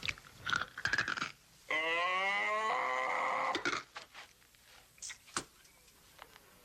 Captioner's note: tooth crunching; Treet groaning